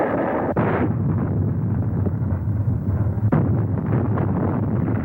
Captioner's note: explosions rumble